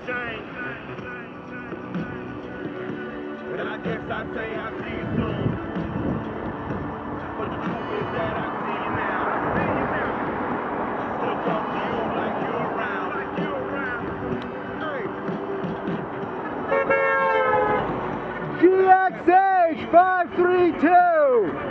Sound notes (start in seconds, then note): 16.4 HONK HOOOooonk